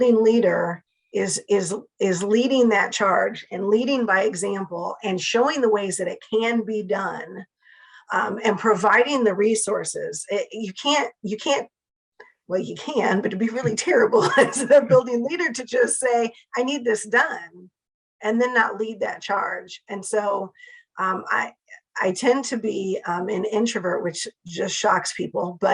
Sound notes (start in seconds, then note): 14.2 laugh